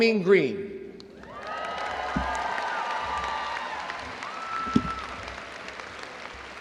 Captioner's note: crowd cheering and applauding